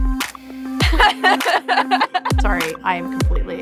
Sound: laughing

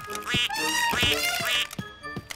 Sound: laughs; quacking; trumpets

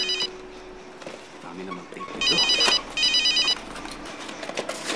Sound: phone still ringing

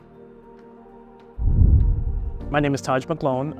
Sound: graphic whooshing

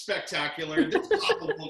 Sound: laughs

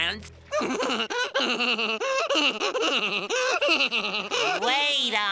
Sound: laughing

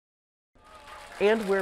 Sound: audience applauding

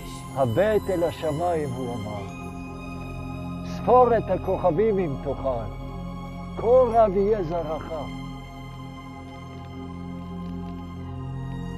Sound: speaking in Hebrew

